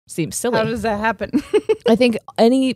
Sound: laughs

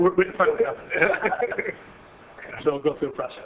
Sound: laughing

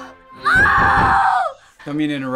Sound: yells; knocking

